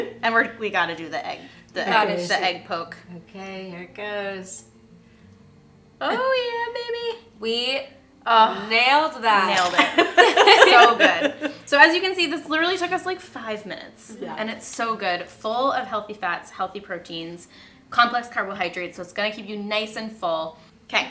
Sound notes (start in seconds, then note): 0.0 laughs; 9.8 laughter